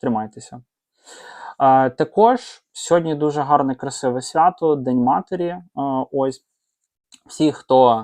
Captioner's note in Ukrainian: сопіння